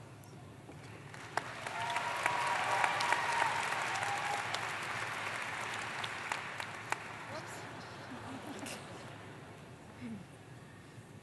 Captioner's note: applause